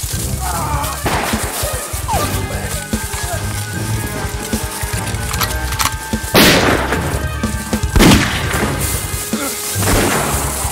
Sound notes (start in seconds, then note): 1.0 gun shot firing; 1.0 suspense music; 4.7 gun clicking; 7.5 suspense music; 7.9 gun shot firing